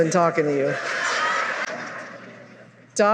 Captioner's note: laughter